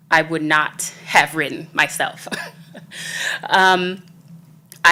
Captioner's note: laughs